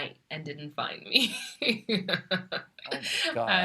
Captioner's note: laughs